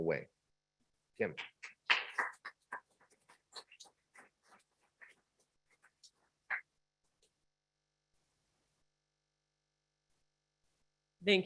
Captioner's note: applause